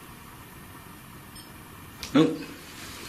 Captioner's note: metre beeping